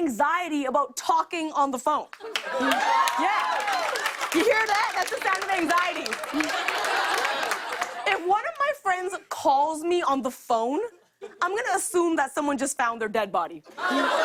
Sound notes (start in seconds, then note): 2.2 cheers and applause; 6.2 laughter